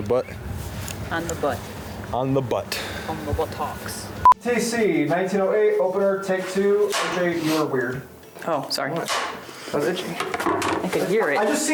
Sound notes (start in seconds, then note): 4.1 machine beeping; 7.0 film slate clapping; 9.0 film slate clapping